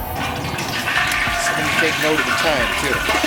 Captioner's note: oil sizzling